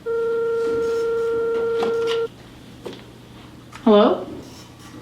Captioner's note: telephone ringing